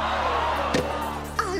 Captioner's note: screaming